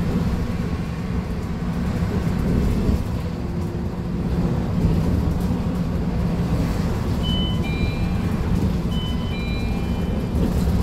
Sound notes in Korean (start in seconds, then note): 7.1 하차벨 소리